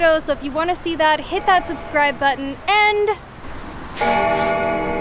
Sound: bell ringing

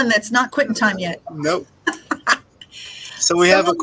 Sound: laughing

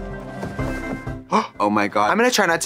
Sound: uplifting music; Katya gasping

